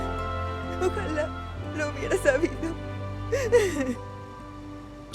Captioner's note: Llorando